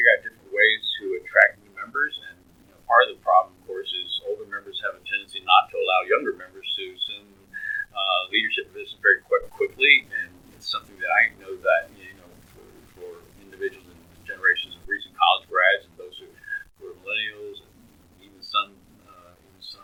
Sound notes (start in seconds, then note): 10.0 laughs